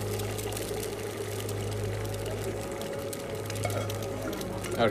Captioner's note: grill sizzling